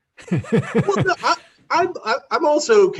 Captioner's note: laughing